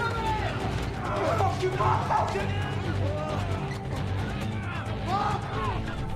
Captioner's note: residents shouting